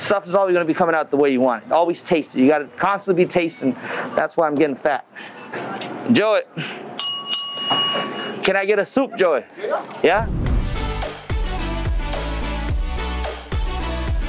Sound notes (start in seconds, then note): 7.0 bell rings; 10.6 bright electronic music